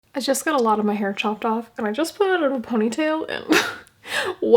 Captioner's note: laugh